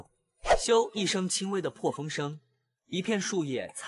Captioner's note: whoosh